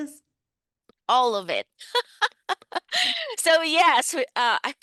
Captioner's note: laughs